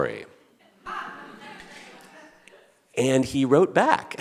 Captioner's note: audience laughing